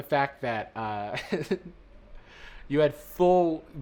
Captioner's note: chuckles